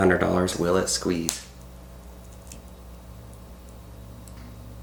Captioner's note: snapping